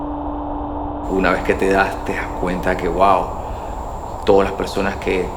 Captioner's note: speaking Spanish